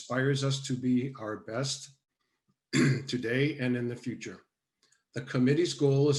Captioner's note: coughs